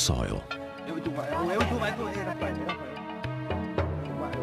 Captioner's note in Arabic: الصوت المنطوق باللغة الأجنبية